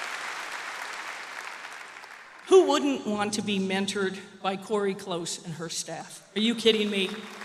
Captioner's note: cheers and applause